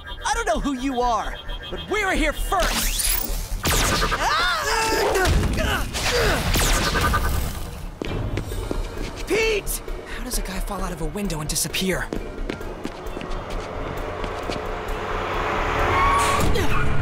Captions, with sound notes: I don't know who you are, but we're here first. [SCREAMING] Pete. How does a guy fall out of a window and disappear? [ACTION MUSIC]